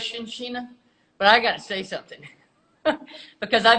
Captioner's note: laughs